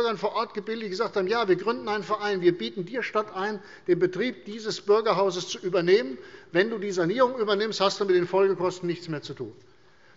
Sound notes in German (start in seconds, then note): none